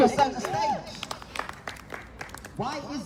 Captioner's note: applause